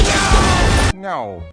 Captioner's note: boom!